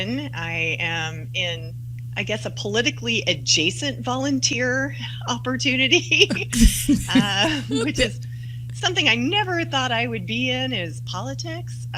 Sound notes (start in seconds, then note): 6.3 laughter